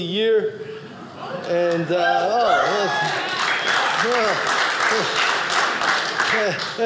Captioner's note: audience cheering